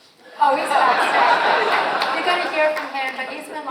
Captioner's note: audience laughs